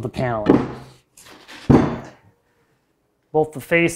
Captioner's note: wood bangs